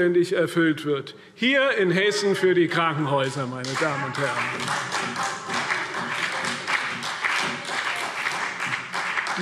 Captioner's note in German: Beifall CDU und BÜNDNIS 90/DIE GRÜNEN